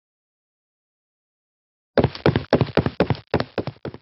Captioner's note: steps